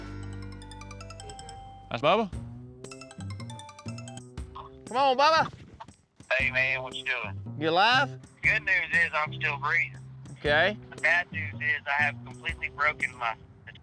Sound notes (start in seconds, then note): 0.2 phone ringing; 2.9 phone ringing